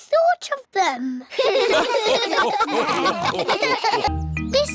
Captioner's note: all laugh